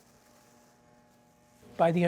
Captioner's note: plastic rustling